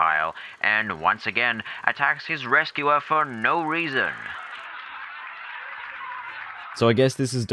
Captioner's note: canned laughter